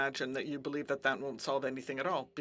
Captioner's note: speaking French